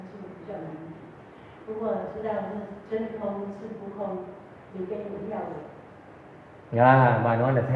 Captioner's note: audience Chinese